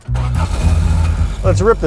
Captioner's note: car engine revving